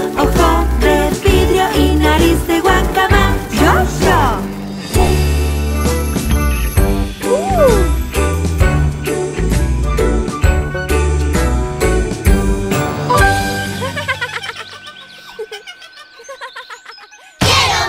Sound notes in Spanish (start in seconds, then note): 4.6 Música Alegre; 13.6 Risas